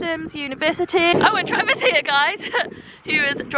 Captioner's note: laughs